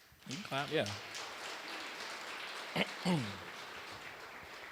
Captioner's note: applause